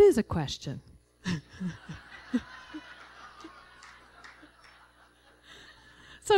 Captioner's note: laughter